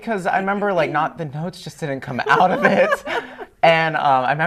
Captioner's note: laughter